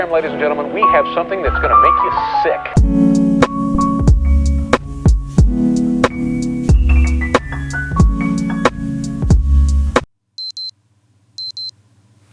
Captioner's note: alarm beeps